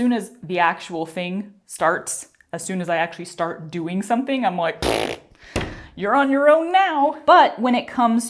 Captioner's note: mouth fart